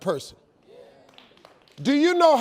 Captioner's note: audience cheering